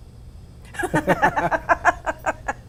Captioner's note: ^laughter^